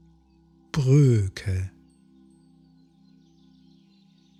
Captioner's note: german